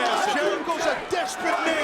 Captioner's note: audience chanting